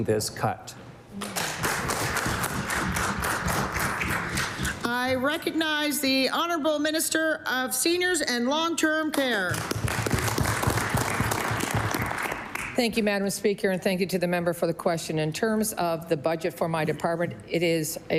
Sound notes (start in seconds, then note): 11.6 applause